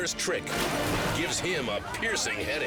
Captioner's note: water splashes